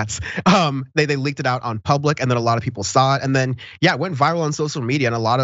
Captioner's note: laugh